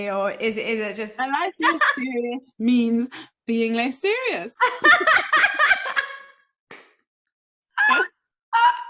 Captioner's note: laughs